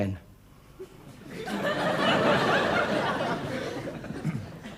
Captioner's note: audience laughs